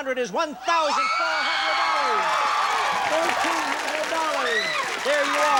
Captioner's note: audience cheers